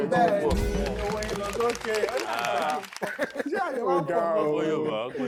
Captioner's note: everyone laughs